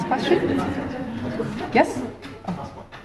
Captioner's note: audience laughs